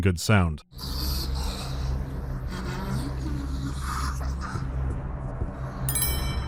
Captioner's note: ghastly wheezing